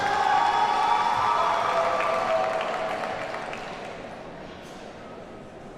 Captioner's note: audience cheers and applauds